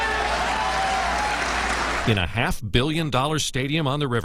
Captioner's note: cheers